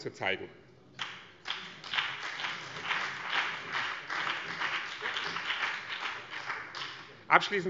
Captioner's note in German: Beifall BÜNDNIS 90/DIE GRÜNEN